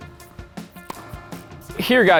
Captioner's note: competitive music; hitting balls